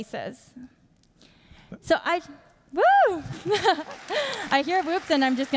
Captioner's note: laughs